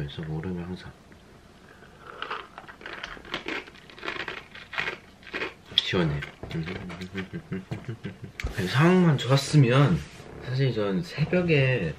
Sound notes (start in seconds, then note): 2.0 slurping; 2.9 crunching ice